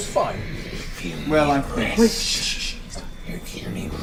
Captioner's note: shushes